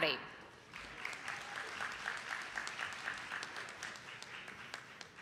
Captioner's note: attendees clapping